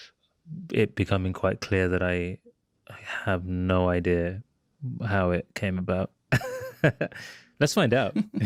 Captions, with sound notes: it becoming quite clear that I have no idea how it came about. (CHUCKLES) Let's find out.